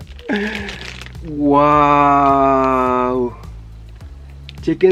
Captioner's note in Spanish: Exclama Asombrado